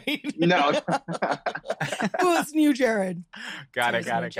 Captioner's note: all laugh